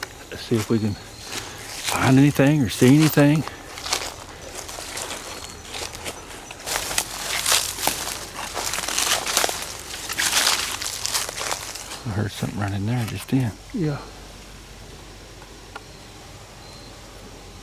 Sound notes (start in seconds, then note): 4.0 leaves crackling